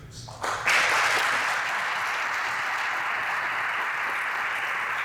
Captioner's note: audience applauds